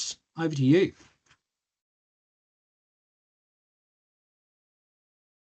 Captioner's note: audio muted